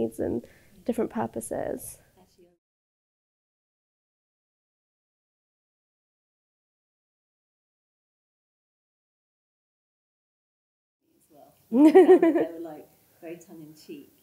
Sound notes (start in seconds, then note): 11.7 laughs